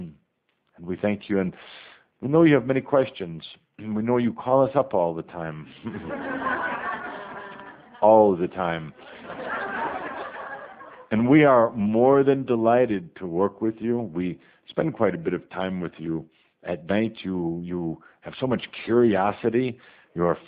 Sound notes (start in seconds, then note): 5.8 audience laughter